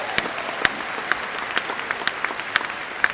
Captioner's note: applause